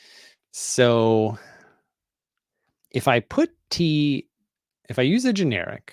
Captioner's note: none